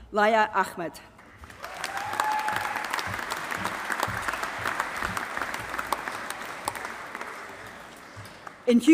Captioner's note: applause